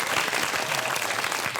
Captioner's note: audience applauds